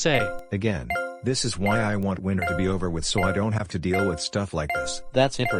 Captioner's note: beeping; beeping